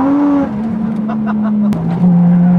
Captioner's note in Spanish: risa